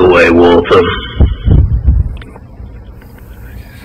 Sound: hits the mic

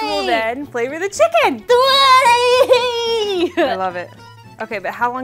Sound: speaking in mandarin

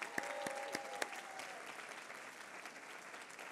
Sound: applause

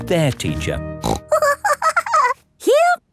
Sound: snorts and giggles

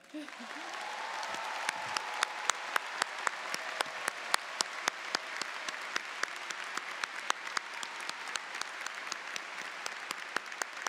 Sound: cheers and Applause

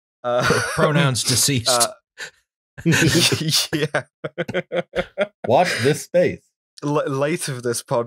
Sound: laughter

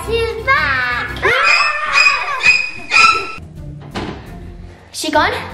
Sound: panicked screaming

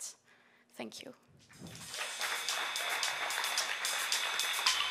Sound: applause

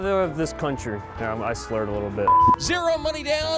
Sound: electronic beep

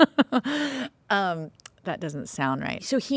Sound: both laughing

